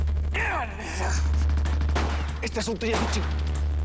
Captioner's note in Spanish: Exclamaciones; Disparos